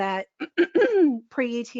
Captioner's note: clearing throat